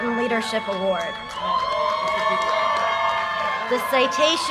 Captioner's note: audience cheers and applause